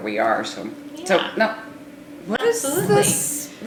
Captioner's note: murmurs